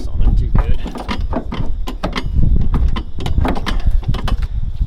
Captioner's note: crashing